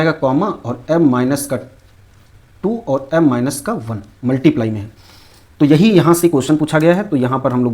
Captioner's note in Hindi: नाक से की जाने वाली आवाज़